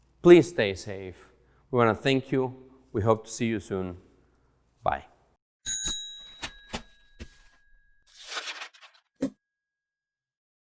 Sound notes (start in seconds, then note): 5.6 bike bell rings; 8.0 paper rustles